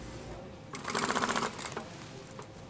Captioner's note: machine rattling